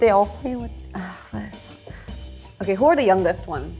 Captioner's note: sighs